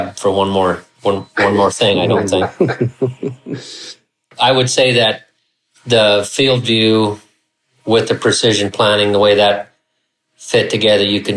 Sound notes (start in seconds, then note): 1.9 laughing